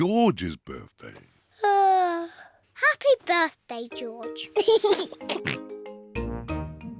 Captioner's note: yawns; laughs and oinks